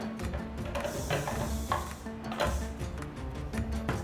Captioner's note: snake rattles